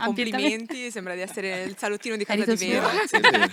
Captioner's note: laughing